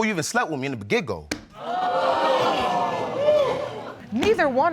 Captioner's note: audience exclaiming